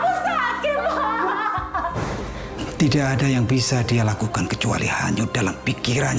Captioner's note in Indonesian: tertawa